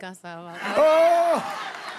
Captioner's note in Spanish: Risas